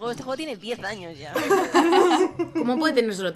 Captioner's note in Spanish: risas